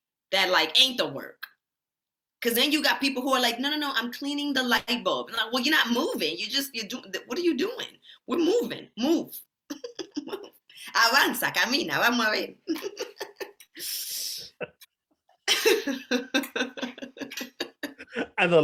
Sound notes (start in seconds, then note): 9.7 laughs; 11.3 speaking Spanish; 12.9 both laughing